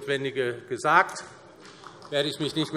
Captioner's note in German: Vereinzelt Beifall SPD